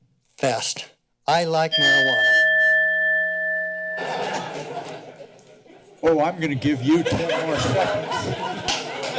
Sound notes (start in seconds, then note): 4.0 laughter